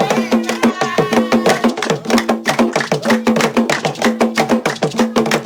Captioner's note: participants clapping